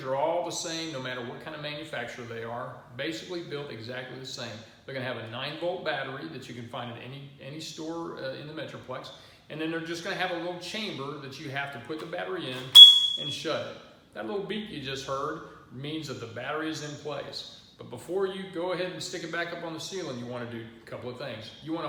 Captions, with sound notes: Smoke detectors are all the same no matter what kind of manufacturer they are. They are basically built exactly the same. They are going to have a 9 volt battery that you can find at any store. They will have a little chamber that you put the battery in. (beep) and shut it. That beep you just heard means the battery is in place. But before you go ahead and stick it back up on the ceiling you want to do a couple of things.